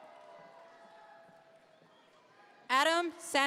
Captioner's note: audience members cheer